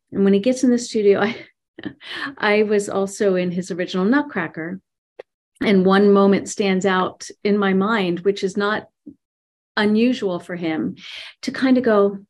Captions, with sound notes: And when he gets in the studio... (laughs) I was also in his original "Nutcracker," and one moment stands out in my mind, which is not unusual for him to kind of go,